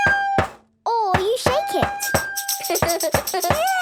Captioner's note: recorder note plays; rattling